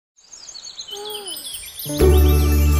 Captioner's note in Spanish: Sonido de Bosque; Música Alegre